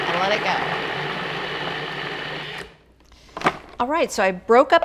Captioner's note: food processor whirs